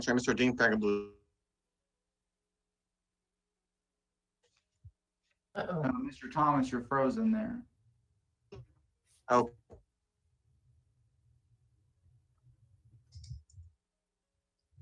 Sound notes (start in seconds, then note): 10.7 audio distortion